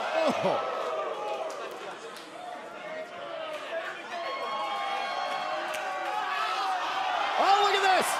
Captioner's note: crowd chatter